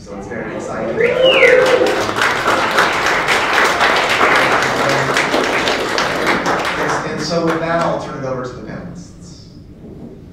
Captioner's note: applause